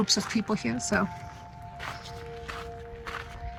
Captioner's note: footsteps